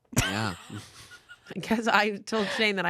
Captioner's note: laughs